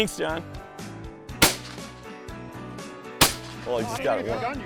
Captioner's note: gunfire shot; voiceover